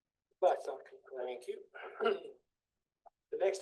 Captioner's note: audio warbles